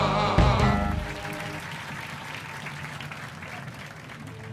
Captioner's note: cheers and applause; dramatic music plays